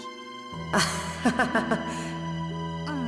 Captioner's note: awkward laugh